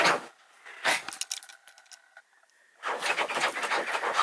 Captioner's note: scratches bed; snuffs; scratches bed